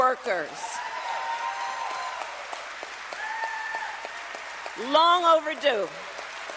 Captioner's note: applause